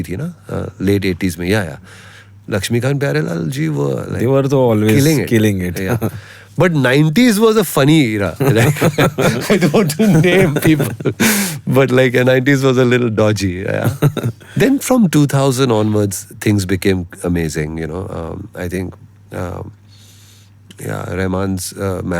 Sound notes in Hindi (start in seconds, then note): 8.4 हंसी